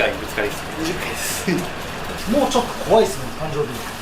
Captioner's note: laughs